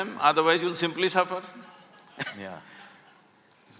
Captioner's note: laughs